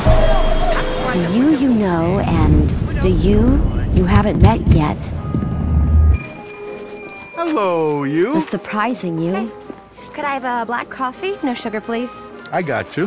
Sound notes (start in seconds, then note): 0.0 traffic signal beeping loudly; 6.1 bell dinging brightly